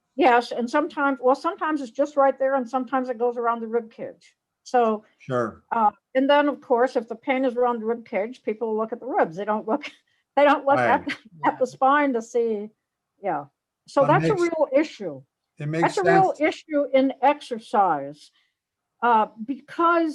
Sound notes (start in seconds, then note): 10.7 laughs